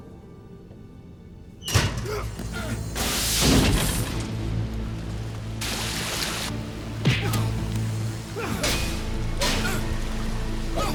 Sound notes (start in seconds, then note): 1.9 Charles grunts; 3.1 flare explodes; 5.6 water gushes; 7.3 Rick grunting